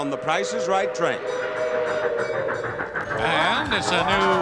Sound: steam train chugging

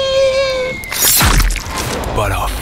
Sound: yells; worm thuds

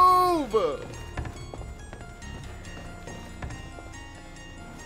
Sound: running

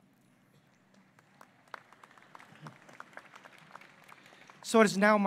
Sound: applause

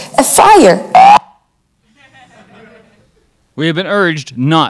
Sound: crowd chuckles

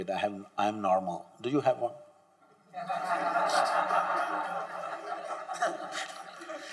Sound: laughter

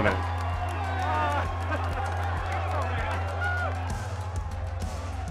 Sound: all cheering

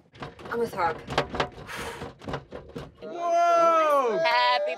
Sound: cake rattles

